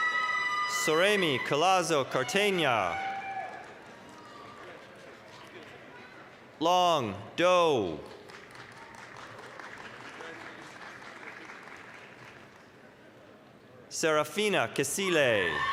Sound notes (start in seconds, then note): 0.0 applause, cheering; 8.0 applause